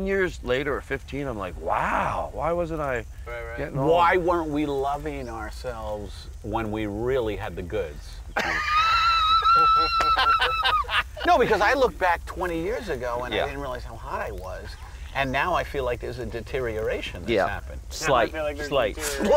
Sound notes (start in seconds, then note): 8.3 laughing